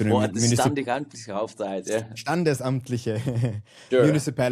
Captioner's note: chuckles